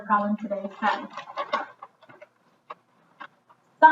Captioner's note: paper rustling